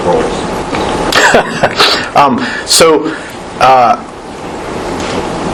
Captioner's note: chuckles